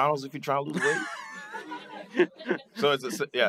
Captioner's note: laughter